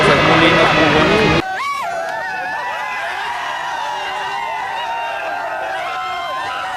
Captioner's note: shouts and cheers